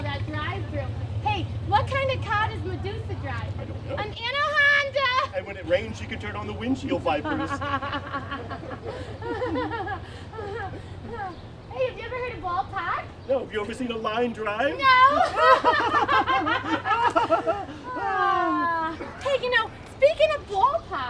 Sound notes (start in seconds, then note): 14.3 laughing